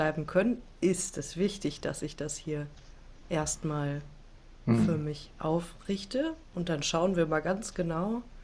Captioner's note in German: räuspern